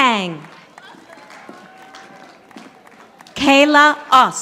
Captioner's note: audience applauding